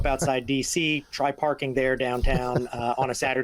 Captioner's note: laughing